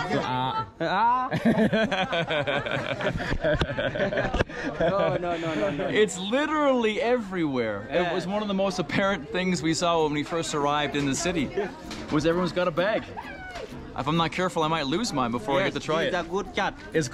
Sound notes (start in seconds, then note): 0.8 everyone laughing